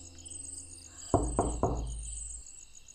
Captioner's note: door Knock